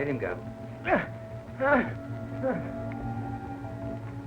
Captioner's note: Regis groans; dramatic music